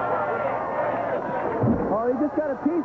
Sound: water splooshing

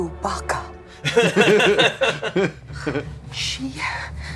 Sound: laugh

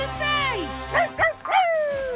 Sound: barking; laughing

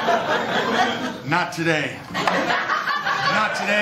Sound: laughter; laughter

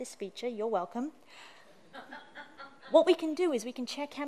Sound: laughter

